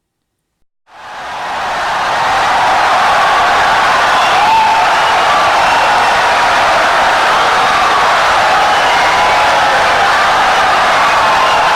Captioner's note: wild applause and cheering for 17 seconds